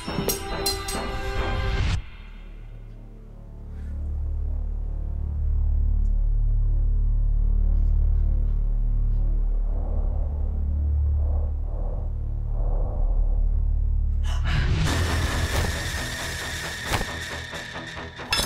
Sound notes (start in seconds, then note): 2.5 ominous music; 14.2 Jenelle gasps; 15.1 tense sinister music